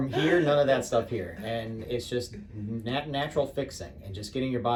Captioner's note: laughs